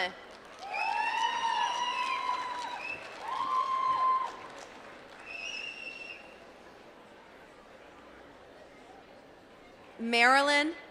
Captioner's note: applause